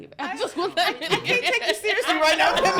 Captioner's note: laughing